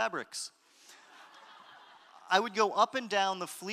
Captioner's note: audience laughter